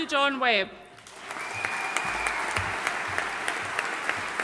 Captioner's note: audience applauding